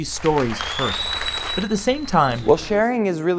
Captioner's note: applause